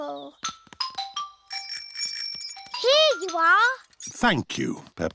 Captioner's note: bell rings